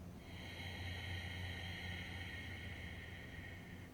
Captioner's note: exhales